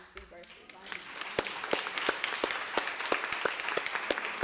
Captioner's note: applause